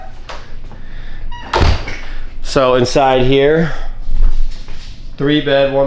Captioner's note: door Slamming